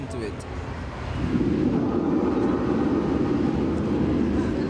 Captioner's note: sounds of thunder and lasers